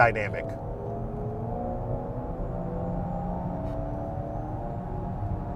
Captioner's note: car engine softly revving